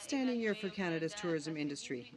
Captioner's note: speaking French